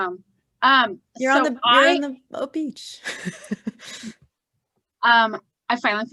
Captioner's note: laughing